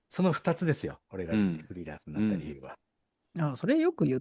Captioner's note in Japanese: 咳払い